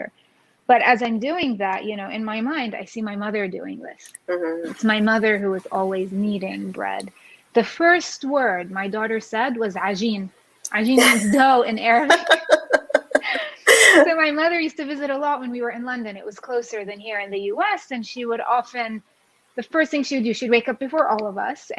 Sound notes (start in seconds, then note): 11.8 laughs